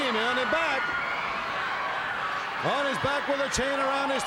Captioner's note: crowd cheering